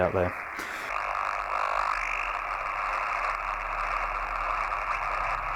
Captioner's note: static crackling